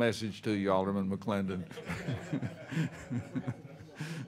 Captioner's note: laughs